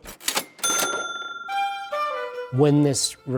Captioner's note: cash register dinging